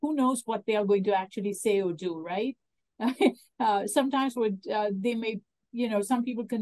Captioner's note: laughs